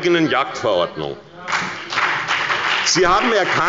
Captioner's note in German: Beifall bei der SPD und der FDP